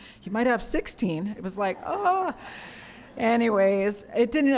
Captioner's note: laughter